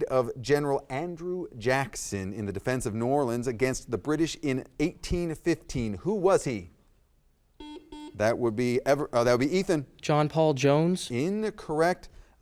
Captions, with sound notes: of general Andrew Jackson in the defense of New Orleans against the British in 1815. Who was he? (buzzer dings) That would be Ethan. - John Paul Jones. - Incorrect.